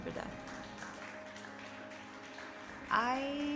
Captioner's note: dancers clapping